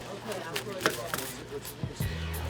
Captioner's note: background chatter